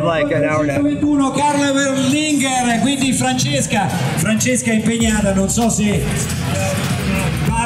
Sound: announcer speaking foreign language over microphone

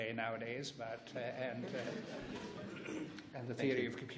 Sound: laughs

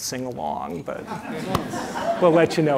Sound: audience laughing

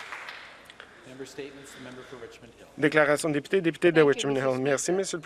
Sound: some Applause

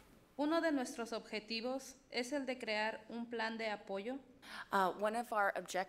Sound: speaks foreign language

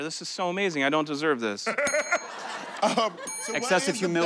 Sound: laughter

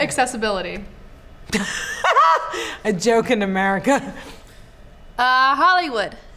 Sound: laughs

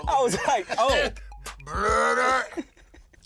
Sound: imitating burp

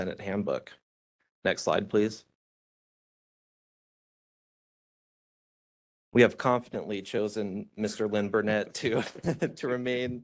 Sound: laughing

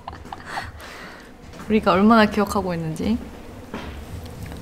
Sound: gasp

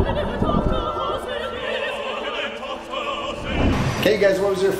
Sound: water splashing

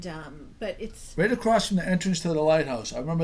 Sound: voiceover

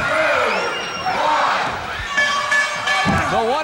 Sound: bell ringing

